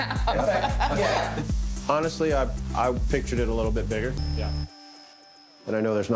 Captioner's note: laughs